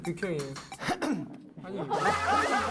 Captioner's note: ahem!